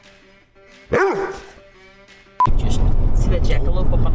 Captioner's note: upbeat music; dog barks